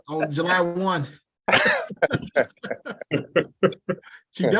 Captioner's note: laughter